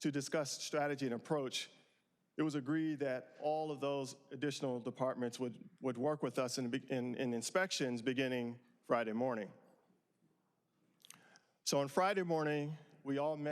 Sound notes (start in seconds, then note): none